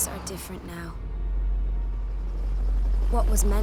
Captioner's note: helicopter chuffing